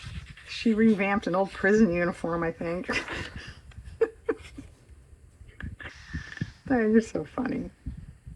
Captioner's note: laughs